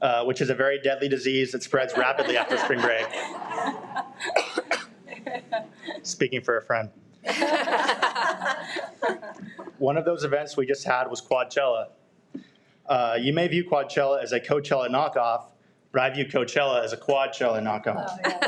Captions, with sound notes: which is a very deadly disease that spreads rapidly after spring break. Speaking for a friend. (people laugh) One of those events we just had was Quadchella. You may view Quadchella as a Coachella knockoff, but I view Coachella as a Quadchella knockoff.